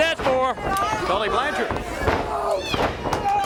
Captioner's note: crowd cheering